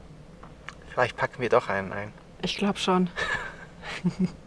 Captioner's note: laughs